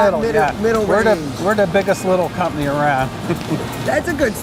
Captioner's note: chuckles